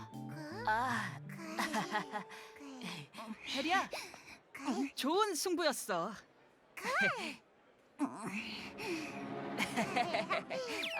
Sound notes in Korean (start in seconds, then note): 1.6 어색한 웃음